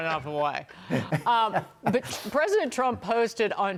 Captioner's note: laughter